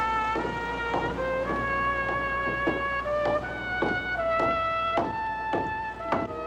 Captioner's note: footsteps Approaching